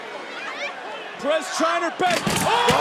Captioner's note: table cracking